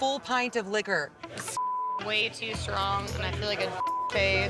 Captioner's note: beep